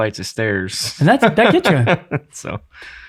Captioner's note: laughing